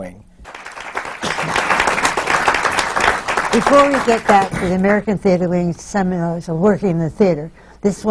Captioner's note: applause